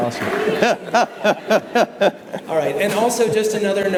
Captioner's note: all laugh